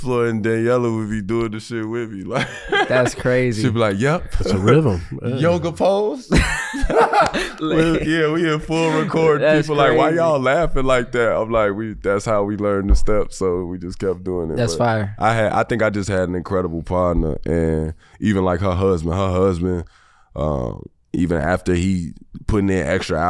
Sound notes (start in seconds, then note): 6.3 Miles and Iman laughing